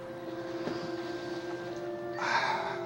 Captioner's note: sighs